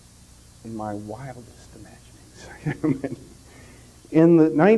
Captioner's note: whispering reflectively